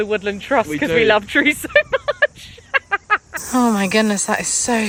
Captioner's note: laughing